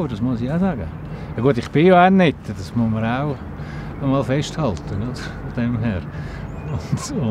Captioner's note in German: lacht